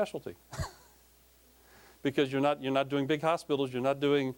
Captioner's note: laughing